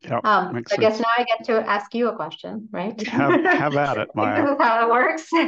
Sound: laugh

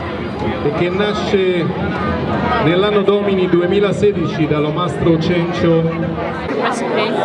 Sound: announcer speaks in a foreign language

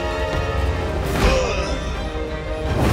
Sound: groaning

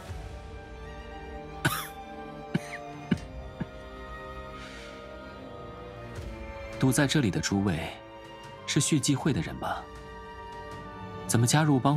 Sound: coughs

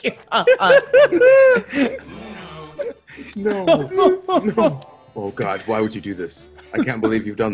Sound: laugh

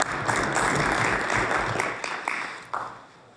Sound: applause

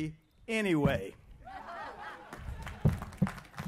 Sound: applause

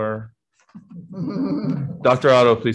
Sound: all chuckles

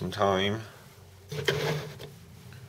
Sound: sliding sound

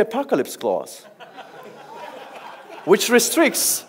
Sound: audience laughs

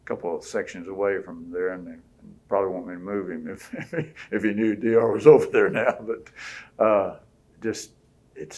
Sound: laughs

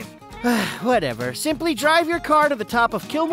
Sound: sighs

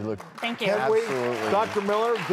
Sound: audience applauding

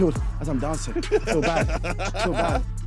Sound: laughing

